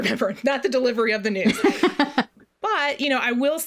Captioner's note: laughs; laughs